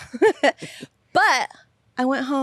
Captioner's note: laughs